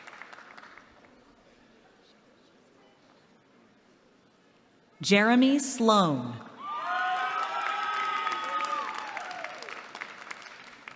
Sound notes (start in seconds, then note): 6.8 applause